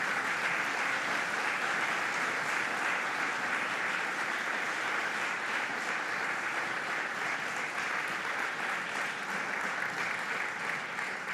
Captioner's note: applause